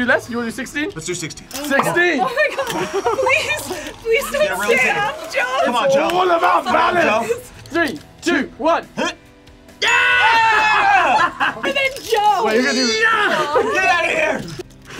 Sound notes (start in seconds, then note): 10.9 laughs